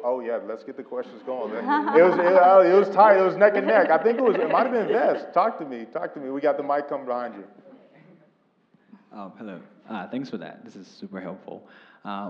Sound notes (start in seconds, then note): 1.1 laugh